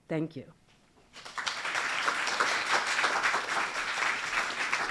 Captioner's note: applause